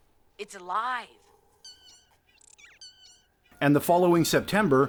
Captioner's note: fairy trilling